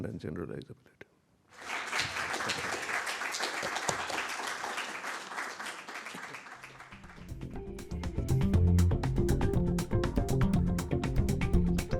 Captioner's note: applause